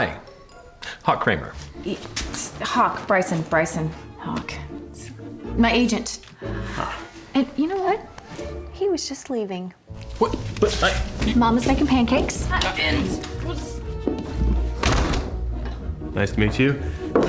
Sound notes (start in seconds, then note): 12.8 door opens, closes